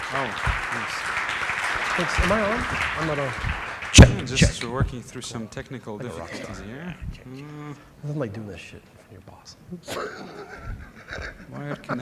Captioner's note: applause